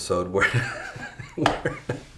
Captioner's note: chuckles